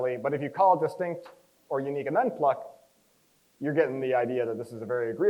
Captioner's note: none